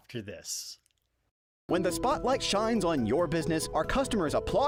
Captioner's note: voiceover